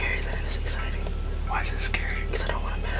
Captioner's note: whispering